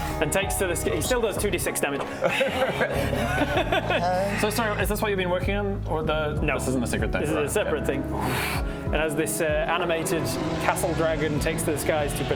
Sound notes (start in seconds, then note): 2.3 asthmatic dragon noises